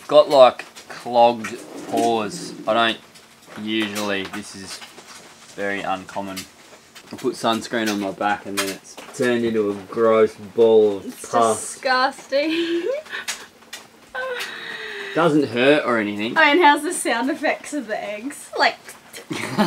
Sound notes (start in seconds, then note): 14.4 laughs